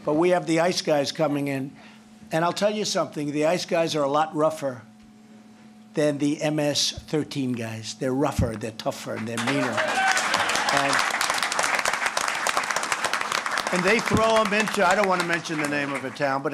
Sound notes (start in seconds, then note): 9.2 applause